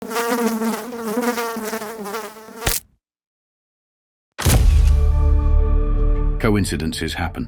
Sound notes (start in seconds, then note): 0.0 fly buzzing; 2.6 fly splatting; 4.4 dramatic music